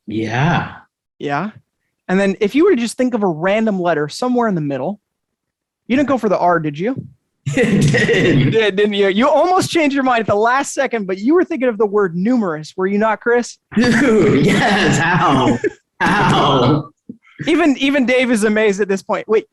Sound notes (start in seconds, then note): 7.5 chuckles; 13.8 all chuckling